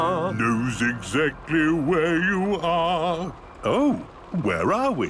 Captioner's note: mimicking tune